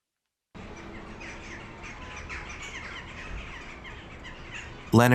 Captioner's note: birds chirping